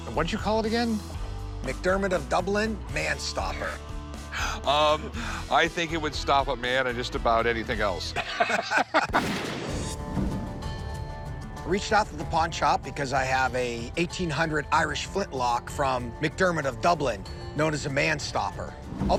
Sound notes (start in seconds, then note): 3.7 laughs; 8.1 laughter